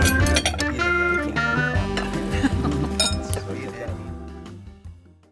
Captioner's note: cheerful music; people chattering